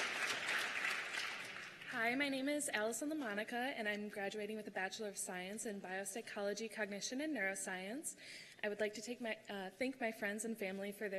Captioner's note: cheers and applause